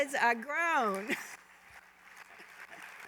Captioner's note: applause, laughter